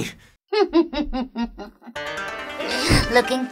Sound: evil Laugh

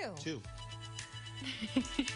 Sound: laughter

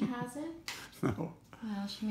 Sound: laughs

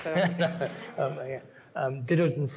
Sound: audience laughs

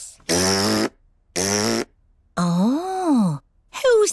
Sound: blows raspberry

